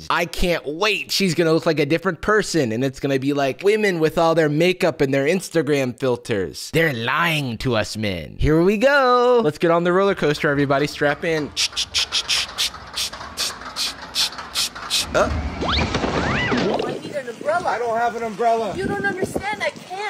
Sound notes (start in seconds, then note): 16.8 imitating rollercoaster